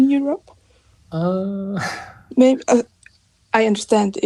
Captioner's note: chuckles